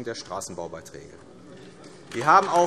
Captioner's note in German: Beifall AfD